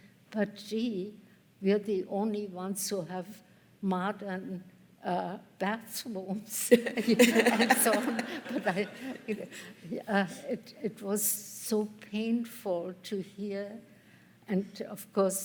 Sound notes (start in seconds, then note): 6.7 laughter